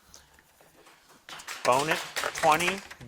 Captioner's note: crowd claps